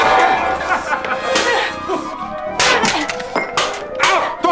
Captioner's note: laughing; metal clanging